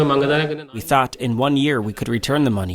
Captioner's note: through translator